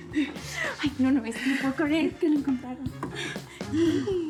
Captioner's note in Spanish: Risas